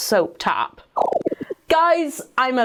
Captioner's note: bubbles popping